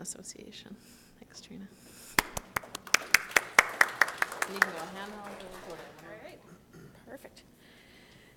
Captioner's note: applause